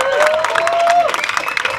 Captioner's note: applause